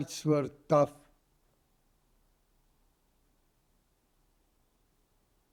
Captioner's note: pauses 6 seconds